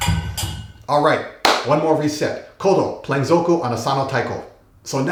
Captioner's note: clap